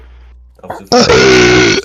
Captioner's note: euggghhhhh